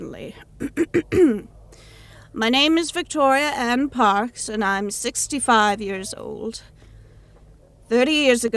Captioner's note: clears throat